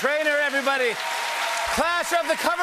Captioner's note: cheers and applause